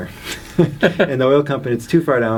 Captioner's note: both laugh